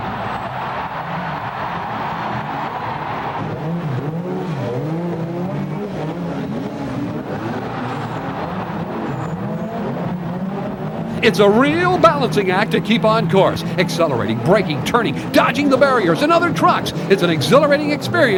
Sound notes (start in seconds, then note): 0.0 crowd roars; 4.0 engines whine